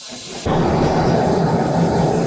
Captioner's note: white noise